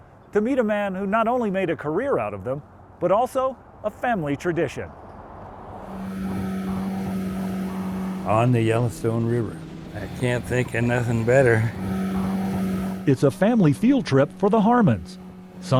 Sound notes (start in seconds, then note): 5.8 boat humming